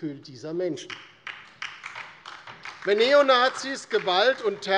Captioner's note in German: Beifall DIE LINKE